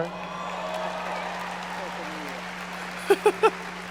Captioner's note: audience applauding